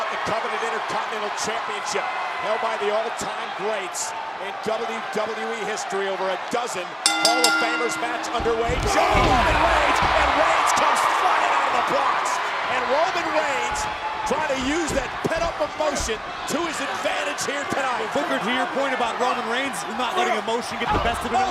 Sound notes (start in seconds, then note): 7.0 bell rings